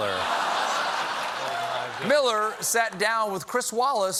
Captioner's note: laughter